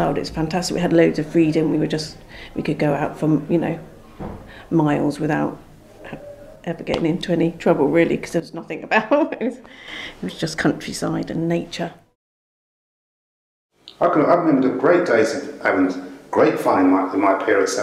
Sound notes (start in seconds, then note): 9.0 chuckles